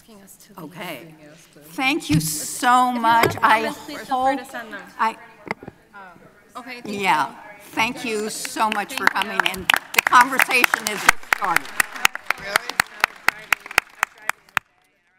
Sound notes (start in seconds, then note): 4.6 woman speaks from a distance; 12.9 audience applauding